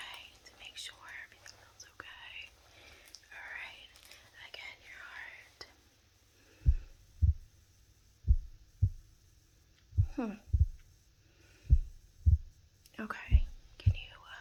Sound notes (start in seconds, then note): 4.6 heartbeat sound; 8.0 breathing sound